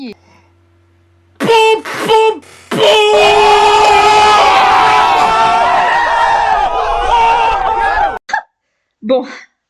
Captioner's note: Antoine Daniel’s popopo and strange noise